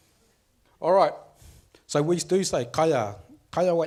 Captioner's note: speaks foreign language